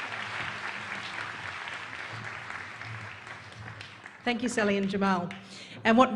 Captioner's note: applause